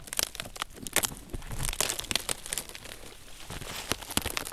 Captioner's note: cracking